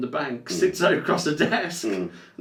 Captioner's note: laughs